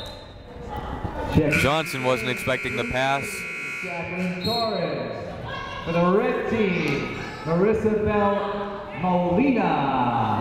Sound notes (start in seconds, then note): 1.5 whistle blowing; 4.4 buzzer sounding